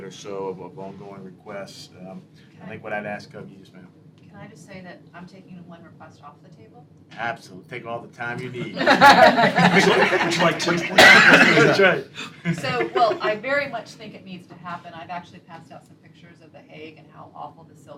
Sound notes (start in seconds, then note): 8.6 laughter